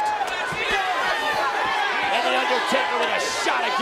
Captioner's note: crowd boos